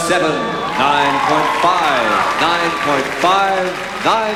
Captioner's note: applause and cheers